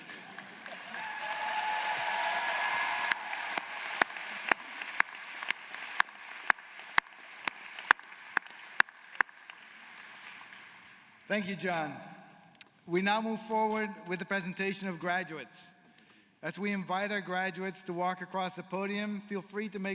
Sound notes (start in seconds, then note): 6.9 applause; 7.2 cheers & applause